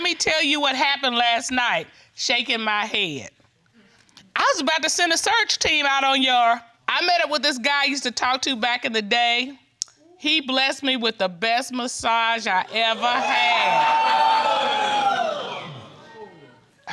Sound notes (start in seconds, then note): 12.9 audience exclaiming